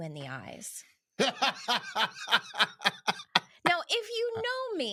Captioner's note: laughing